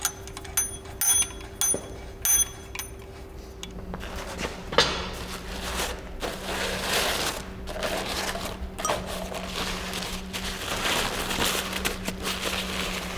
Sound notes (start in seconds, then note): 0.0 metallic sounds; 5.2 rustling